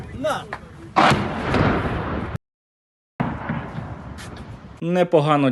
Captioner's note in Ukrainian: вибух